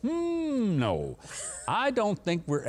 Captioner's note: laughs